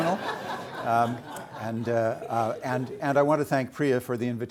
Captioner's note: audience laughing